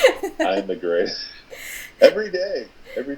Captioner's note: laughing